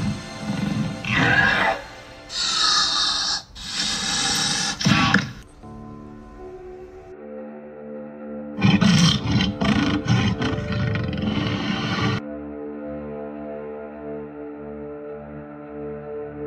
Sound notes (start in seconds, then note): 2.2 Raptor growling; 8.6 tyrannosaurus growling